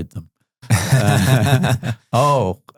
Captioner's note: laughs